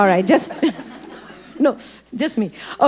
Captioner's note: audience laughing